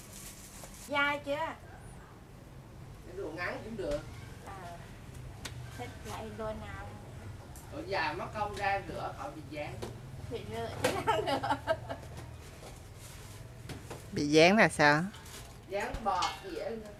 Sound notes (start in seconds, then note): 11.0 laugh